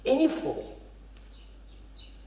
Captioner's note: none